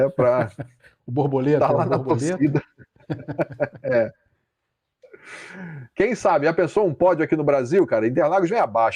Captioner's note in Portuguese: risadas